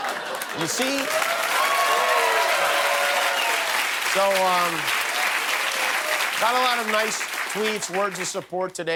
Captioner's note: cheers and applause